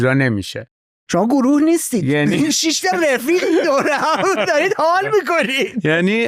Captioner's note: laughs